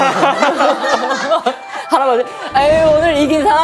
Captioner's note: hahaha